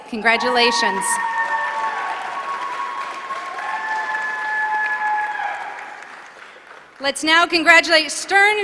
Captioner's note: applause